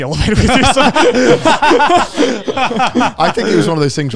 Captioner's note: laughs